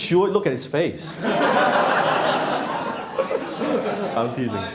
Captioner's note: laughing